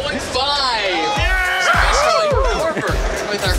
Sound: cheering

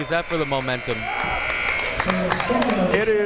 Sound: buzzer ringing

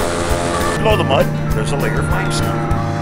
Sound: voiceover

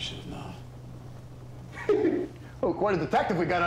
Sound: chuckles

